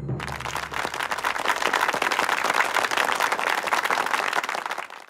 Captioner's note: applause